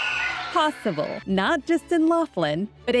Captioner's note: cheers